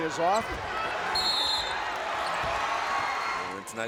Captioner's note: whistle blows